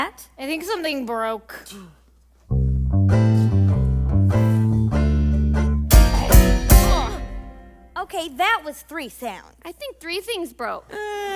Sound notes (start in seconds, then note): 5.8 thunk, thunk, thunk